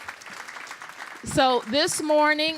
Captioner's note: applause